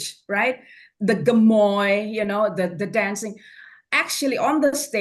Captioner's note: foreign language